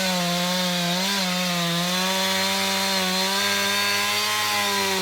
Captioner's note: saw sounds